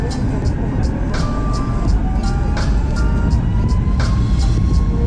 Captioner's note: plane engine roaring